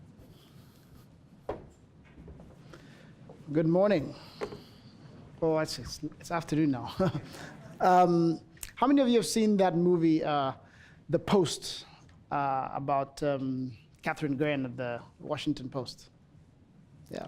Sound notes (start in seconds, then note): 7.1 audience chuckling